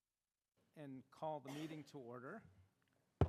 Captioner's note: gavel